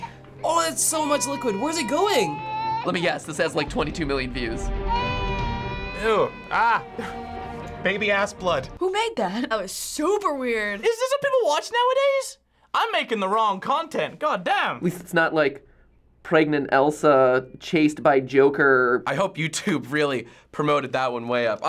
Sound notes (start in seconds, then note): 4.8 doll wailing